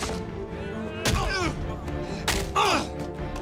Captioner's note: groan